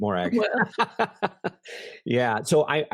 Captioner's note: both laugh